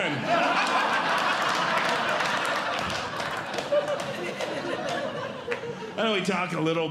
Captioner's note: audience Laughing